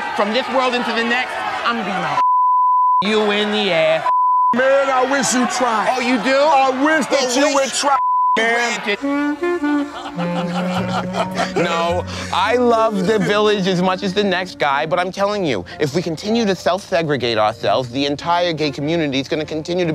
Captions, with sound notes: from this world into the next, I'm gonna (beep) you in the (beep). - Oh, man, I wish you'd try. - Oh, you do? - I wish that you would try, man. - Then your wish is (beep) granted. (playful jazz music) (laughing) no, I love the village as much as the next guy, but I'm telling you, if we continue to self-segregate ourselves, the entire gay community is gonna continue